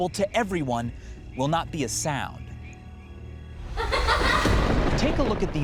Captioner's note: girl laughs evilly